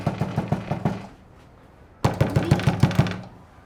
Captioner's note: hand knocking